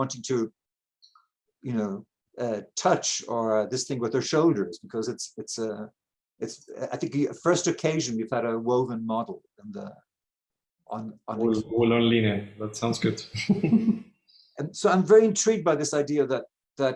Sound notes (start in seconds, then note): 13.3 chuckling